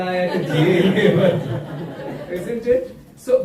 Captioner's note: laughter